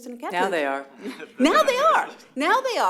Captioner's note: laughter